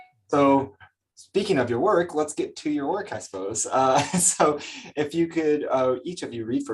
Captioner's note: chuckles